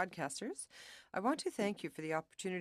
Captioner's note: speaking French